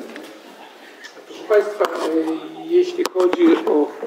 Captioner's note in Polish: nagranie audio; nagranie audio